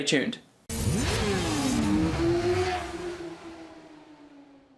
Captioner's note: engine revving